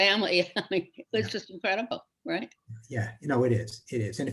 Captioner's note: chuckles